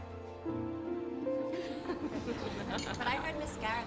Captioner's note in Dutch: vrouwen lachen